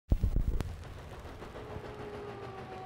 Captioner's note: train chugging